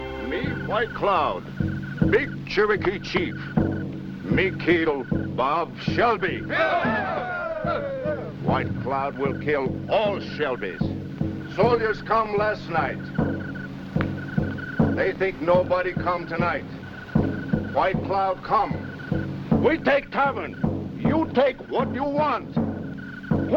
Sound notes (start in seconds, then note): 6.5 cheering